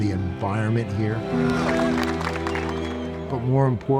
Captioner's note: cadets clapping